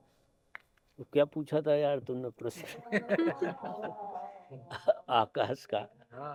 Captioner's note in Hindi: हंसी